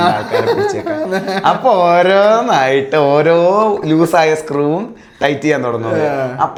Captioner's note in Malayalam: പൊട്ടിച്ചിരി